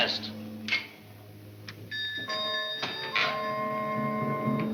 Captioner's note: bell rings; suspenseful music